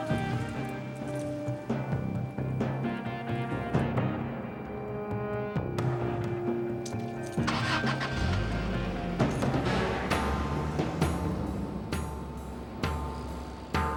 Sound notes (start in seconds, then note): 7.3 engine revs; 10.1 suspenseful music